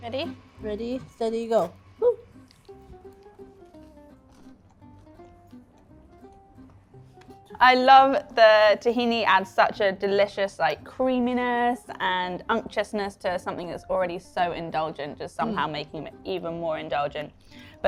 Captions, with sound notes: Ready? - Ready, steady, go, woo. (food crunching) - I love the tahini adds such a delicious creaminess and unctuousness to something that's already so indulgent, just somehow making 'em even more indulgent.